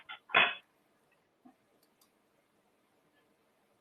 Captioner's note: rattling sound